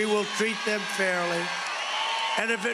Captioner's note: cheering and applause